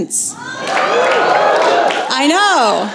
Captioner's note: cheering